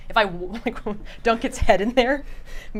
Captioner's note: laughs